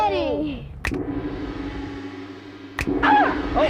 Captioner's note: finger snaps; gong; finger snaps; gong